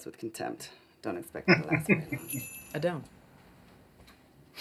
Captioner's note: chuckling